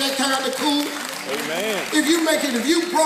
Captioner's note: audience clapping